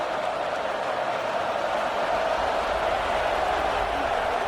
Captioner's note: crowd cheering